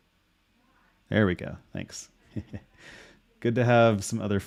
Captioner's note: chuckles